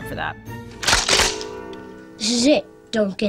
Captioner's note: gun cocks